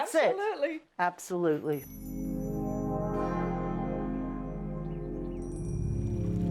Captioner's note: birds chirping; soft music